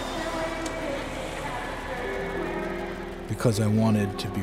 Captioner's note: airplane engine whooshing